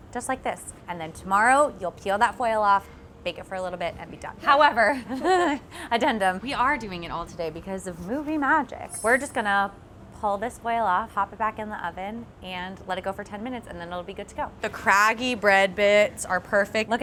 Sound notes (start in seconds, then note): 5.0 chuckles